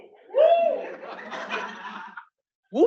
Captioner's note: laughter